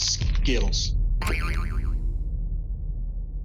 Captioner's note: comedic sound effect